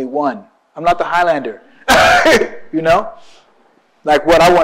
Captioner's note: laughs